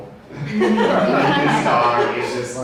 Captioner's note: audience laughs